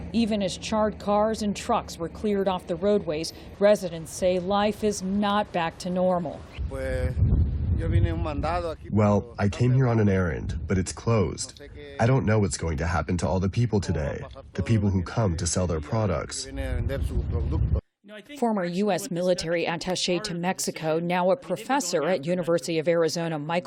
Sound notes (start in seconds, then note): 9.7 through translator